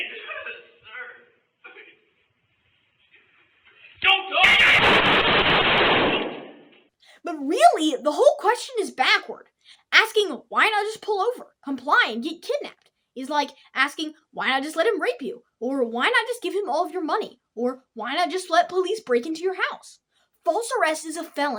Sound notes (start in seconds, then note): 4.4 gunshots